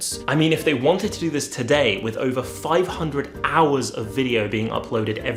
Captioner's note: none